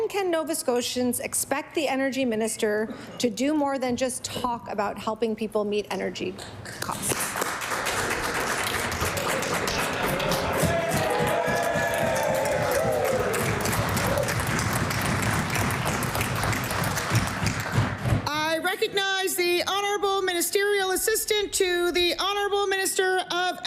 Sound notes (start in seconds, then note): 9.6 applause; 14.3 cheering/Applause